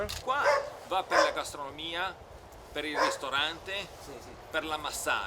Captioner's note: speaking Italian